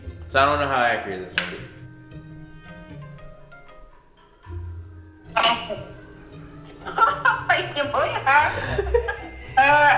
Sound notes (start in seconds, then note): 5.5 mom speaking in Korean